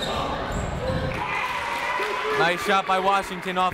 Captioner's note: crowd cheers